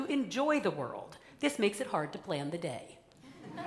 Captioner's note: laughter